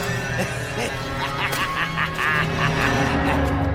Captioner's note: laughs